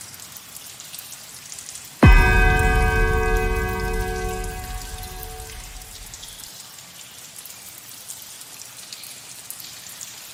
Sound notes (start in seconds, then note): 2.0 seventh bell